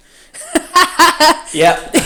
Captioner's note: laughs